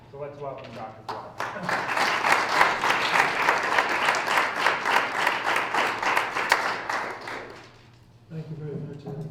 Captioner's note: applause